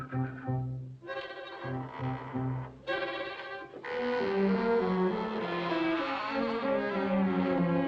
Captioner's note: door squealing